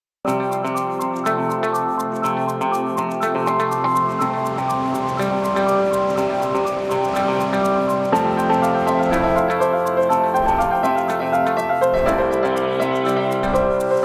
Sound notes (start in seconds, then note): 0.2 upbeat music; 4.6 air whooshing